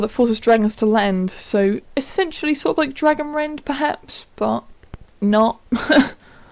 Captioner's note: laugh